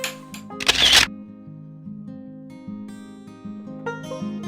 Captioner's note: shutter sound